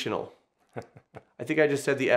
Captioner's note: chuckles